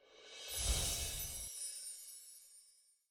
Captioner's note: chimes sound effect